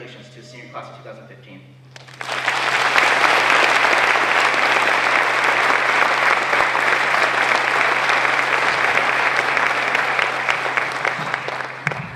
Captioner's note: applause